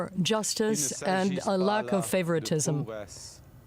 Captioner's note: speaking French